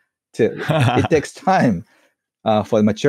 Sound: laughs

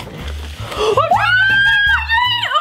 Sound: screams

